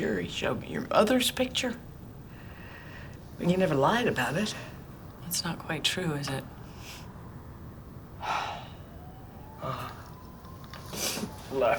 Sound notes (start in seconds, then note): 9.5 sighing